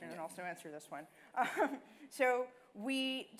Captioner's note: laughing